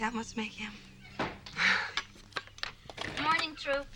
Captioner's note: door closes